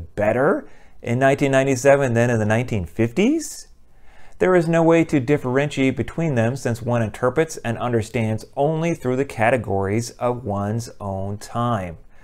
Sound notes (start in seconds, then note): none